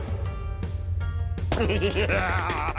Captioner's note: giggles